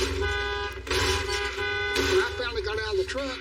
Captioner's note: honking horn; honks horn